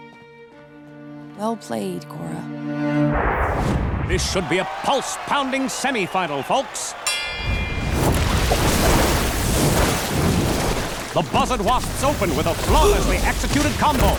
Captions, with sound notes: Well played, Korra. This should be a pulse-pounding semifinal, folks! [dinging] The Buzzard Wasps open with a flawlessly executed combo.